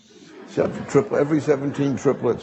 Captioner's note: audience laughing